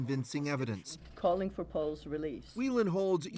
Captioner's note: speaking russian